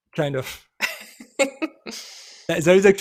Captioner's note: chuckles